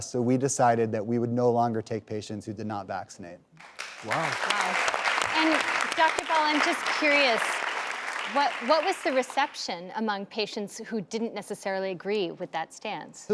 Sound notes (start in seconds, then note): 3.6 clapping